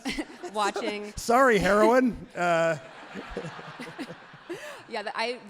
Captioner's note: everyone laughs happily